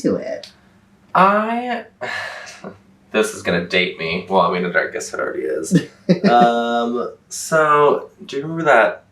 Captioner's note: laughs